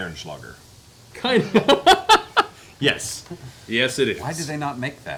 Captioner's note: laughs